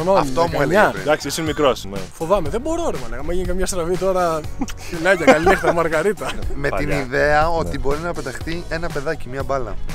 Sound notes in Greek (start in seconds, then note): 4.5 γέλια